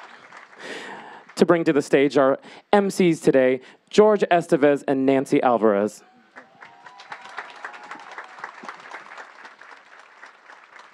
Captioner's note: clapping